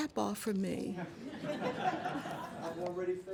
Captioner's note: laughter